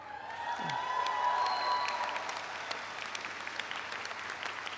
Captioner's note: audience applauds